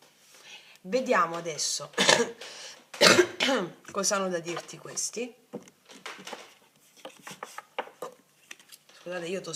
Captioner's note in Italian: schiarire la voce